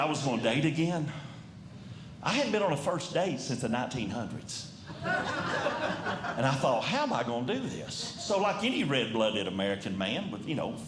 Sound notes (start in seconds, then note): 4.9 audience Laughing